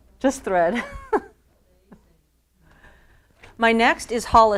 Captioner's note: laughs